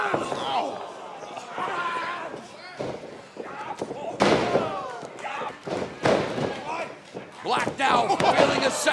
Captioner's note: crowd chatter